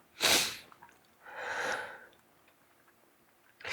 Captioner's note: sniffing